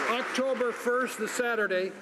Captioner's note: some Applause